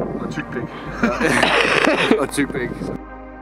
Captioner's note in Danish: Laughing